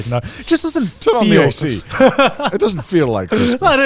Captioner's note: laughs